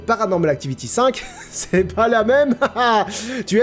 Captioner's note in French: rire